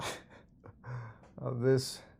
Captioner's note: laughs